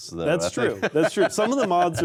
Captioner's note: laughs